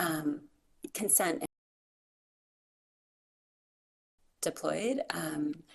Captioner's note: audio cuts out